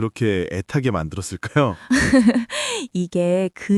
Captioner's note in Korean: 웃음